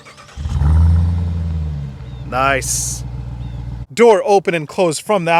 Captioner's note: engine revving